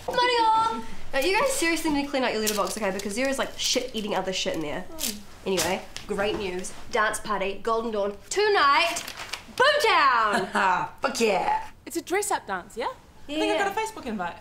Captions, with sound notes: Morning, all Now you guys really need to clean out your letterbox because there is shit eating other shit in there *letter hits ground* Anyway, great news Dance party Golden Dawn Tonight Boomtown! Ha ha! Fuck yeah It's a dress up dance, yeah? I think I got a Facebook invite